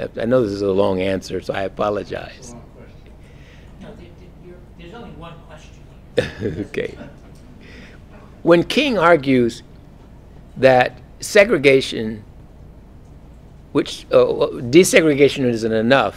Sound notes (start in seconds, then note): 6.1 laugh